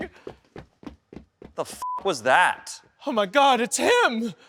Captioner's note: beep